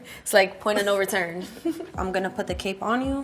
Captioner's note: laughs